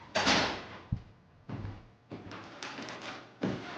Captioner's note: door thuds